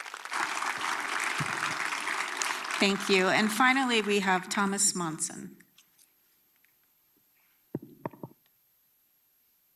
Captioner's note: applause